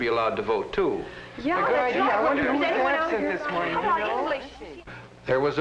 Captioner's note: chattering